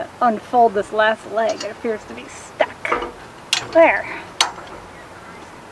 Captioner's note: grunting